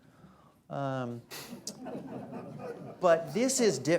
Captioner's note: laughter